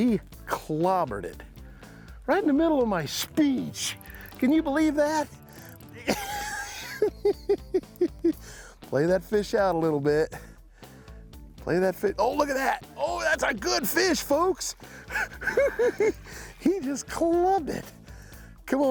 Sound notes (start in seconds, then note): 5.3 laughs